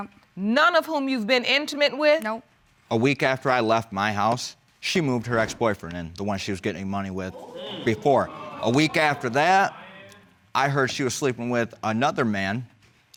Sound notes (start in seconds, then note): 7.3 audience exclaims